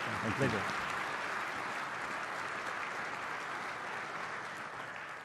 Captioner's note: applause